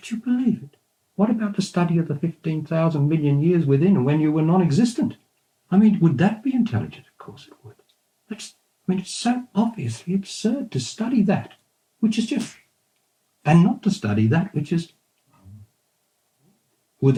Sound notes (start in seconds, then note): 12.4 snaps his fingers